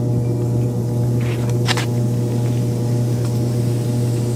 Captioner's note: hose pipe spraying